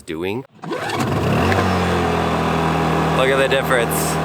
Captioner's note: generator cranks; generator whirring